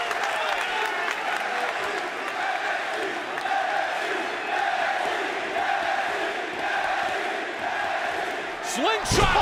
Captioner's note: crowd cheering